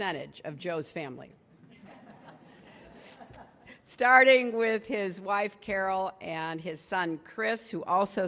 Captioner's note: laughter